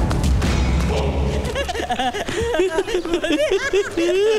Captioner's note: Laughs